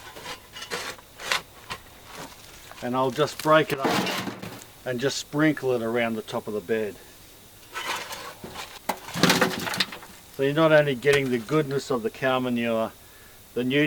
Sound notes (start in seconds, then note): 9.2 soil falls into wheelbarrow